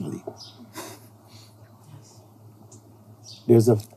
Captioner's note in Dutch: nerveus gelach; fluisterende stem